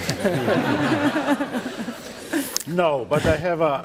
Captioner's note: laughter